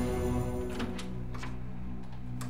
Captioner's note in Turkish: kapı açılır